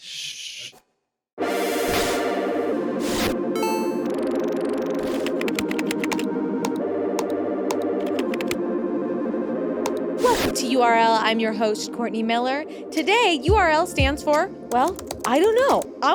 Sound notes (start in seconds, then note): 1.3 upbeat electronic music; 5.1 keyboard clacking; 6.8 mouse button clicking